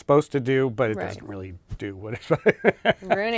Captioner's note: laughs